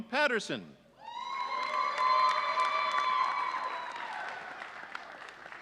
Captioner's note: audience cheering